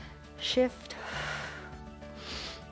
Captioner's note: exhales; inhales